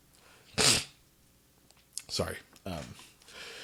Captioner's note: sniffs